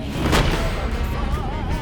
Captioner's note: cannon blasts